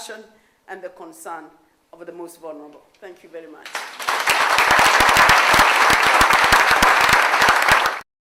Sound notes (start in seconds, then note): 5.3 loud clapping